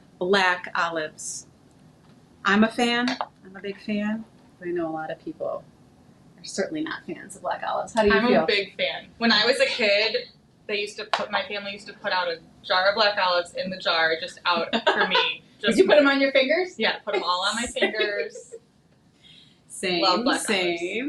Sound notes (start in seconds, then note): 14.5 laughing